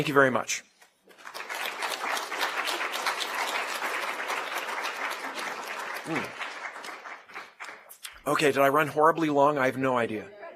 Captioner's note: applause